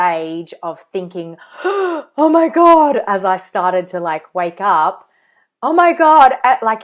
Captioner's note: gasps